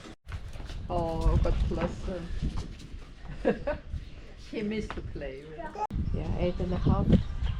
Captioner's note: laughter